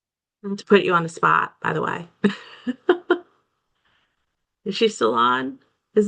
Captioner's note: laughs